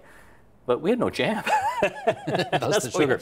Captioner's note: laughs